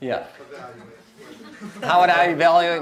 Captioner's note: audience chuckles